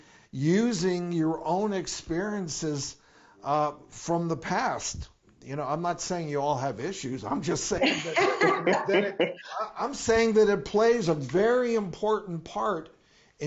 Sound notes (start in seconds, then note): 7.8 laughs